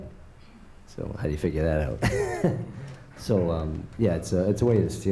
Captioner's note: laughs